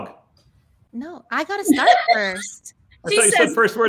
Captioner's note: laughs